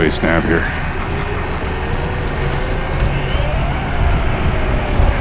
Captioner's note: electric motor sounds; electric motor screaming